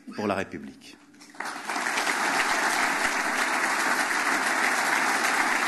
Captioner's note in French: Applaudissements